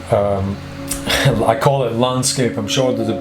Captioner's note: laughs